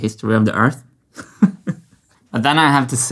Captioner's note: chuckles